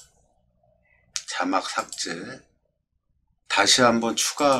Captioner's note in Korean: 클릭